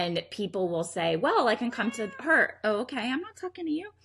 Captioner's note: cat meows